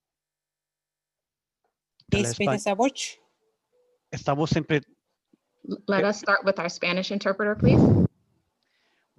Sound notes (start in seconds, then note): 2.2 speaking in foreign language